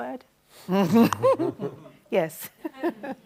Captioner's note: both chuckle